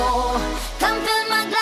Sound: echo

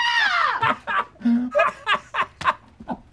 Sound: laughs

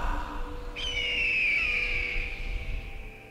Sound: bird screeching in distance

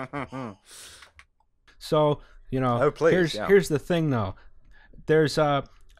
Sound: boozy laughter

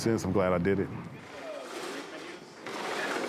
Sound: furniture dragging

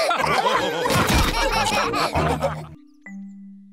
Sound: laughter

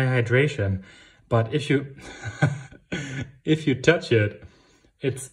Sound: laughs

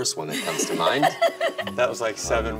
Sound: all laugh

